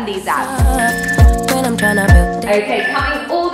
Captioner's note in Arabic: المؤقت يصدر صفيرًا